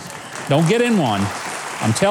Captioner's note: audience applauding